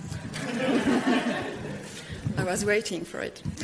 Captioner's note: audience laughter